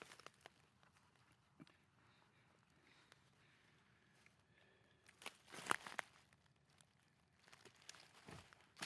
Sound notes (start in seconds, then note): 2.8 breathing heavily